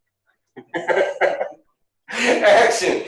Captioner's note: laughter